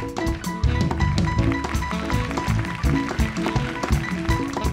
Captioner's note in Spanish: Aplausos